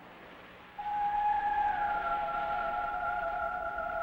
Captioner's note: siren wailing